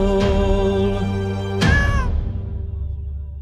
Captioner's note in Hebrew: יללה